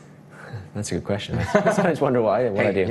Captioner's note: laughs